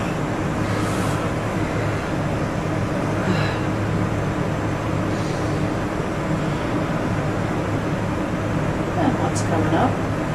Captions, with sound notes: (yawns) What's coming up?